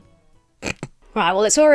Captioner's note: Emma snorts